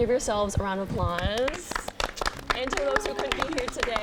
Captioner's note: group claps